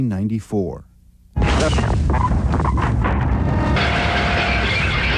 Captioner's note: static buzzing; glass crashing